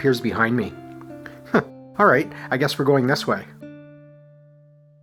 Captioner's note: chuckles